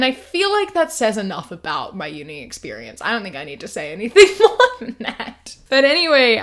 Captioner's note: laughs